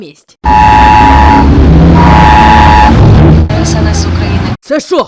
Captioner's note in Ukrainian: несамовитий звук оповіщення ДСНС України